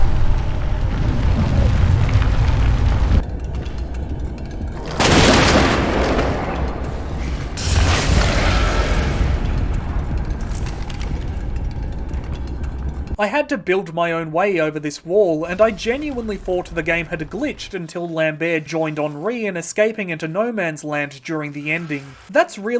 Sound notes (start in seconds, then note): 2.9 still in French* More shotgun fire, followed by nothing